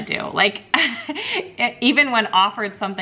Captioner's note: chuckling